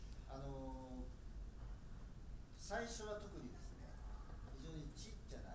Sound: speaking in foreign language

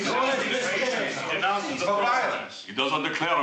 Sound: people chattering

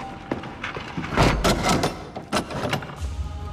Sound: Ezio closes door

